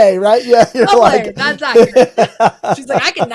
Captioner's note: all laughing